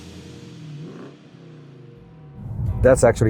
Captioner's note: car revving